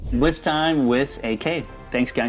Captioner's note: air whooshing